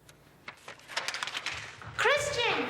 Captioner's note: paper crinkling